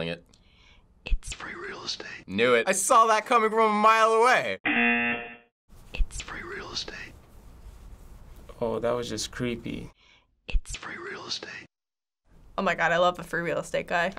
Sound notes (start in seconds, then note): 0.2 girl whispering; 5.6 girl whispering; 9.8 girl whispering